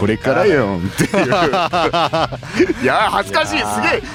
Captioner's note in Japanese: 笑い